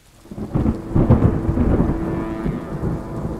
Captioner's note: night thunderstorm